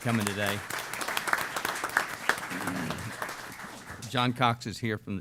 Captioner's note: applause